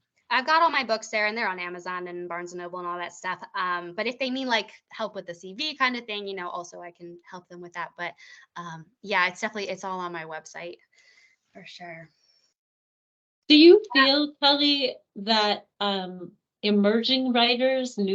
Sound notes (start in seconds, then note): none